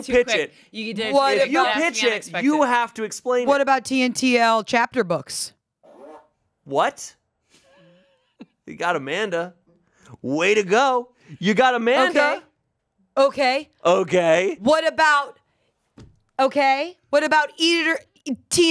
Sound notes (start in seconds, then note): 5.8 fart machine farts; 7.7 laughs